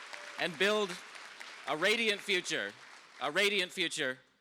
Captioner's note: cheers and applause